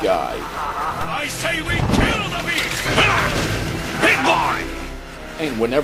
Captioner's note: snarls